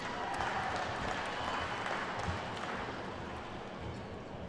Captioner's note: attendees clapping